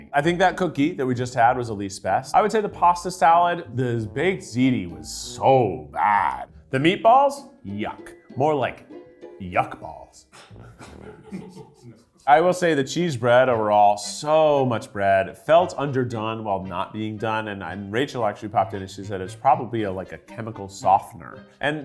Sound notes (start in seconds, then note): 10.7 crew laughs